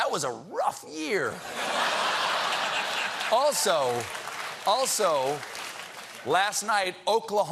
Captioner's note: laughter